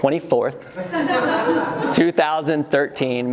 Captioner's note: laughing